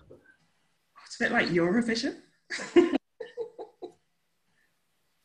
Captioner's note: laughing